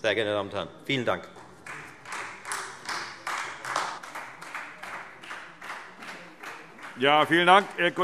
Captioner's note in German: Beifall Freie Demokraten